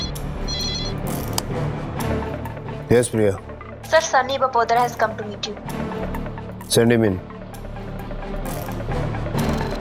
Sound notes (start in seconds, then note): 1.2 button clicks